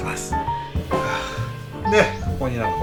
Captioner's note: sighs